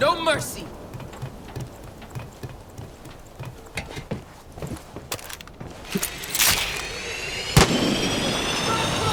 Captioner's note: gunshots